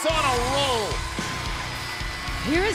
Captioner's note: bell ringing